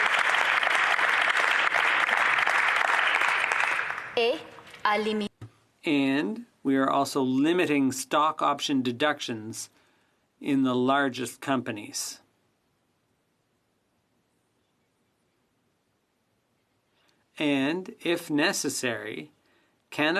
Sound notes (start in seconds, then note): 4.5 applause